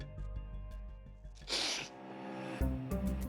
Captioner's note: sniffles